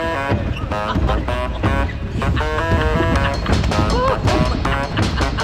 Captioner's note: laughing